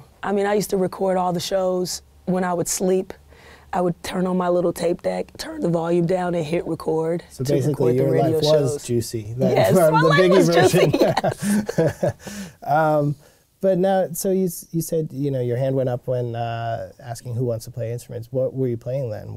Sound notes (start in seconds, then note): 10.2 both laughing